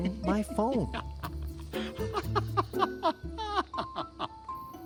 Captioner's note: laughs